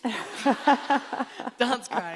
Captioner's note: laughing